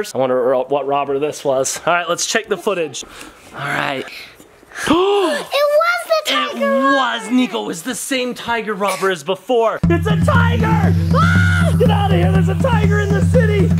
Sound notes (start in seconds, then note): 4.7 gasps; 10.0 yells